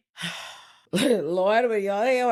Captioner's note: sighs